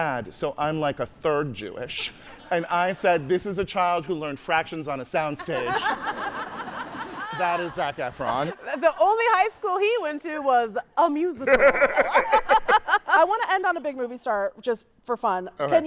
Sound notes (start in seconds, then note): 5.4 hosts, audience laughing; 11.4 laughing; 11.4 guy laughing